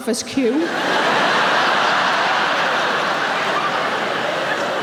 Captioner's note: audience laughing